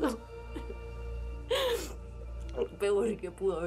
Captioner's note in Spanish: sollozos